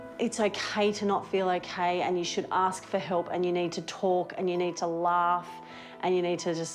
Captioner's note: none